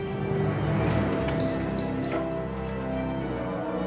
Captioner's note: door opens